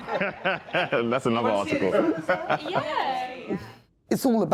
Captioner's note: laughing; laughing and crosstalk